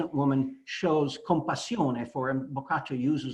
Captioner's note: italian